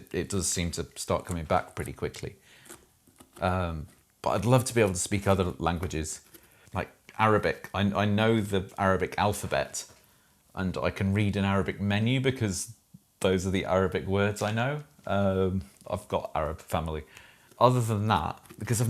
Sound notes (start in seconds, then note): none